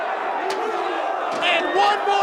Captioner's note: chair clunks